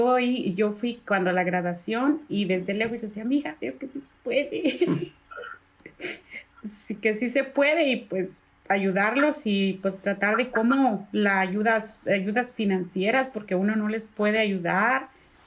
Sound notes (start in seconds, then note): 10.3 laugh